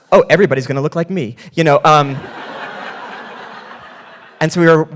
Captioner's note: audience laughing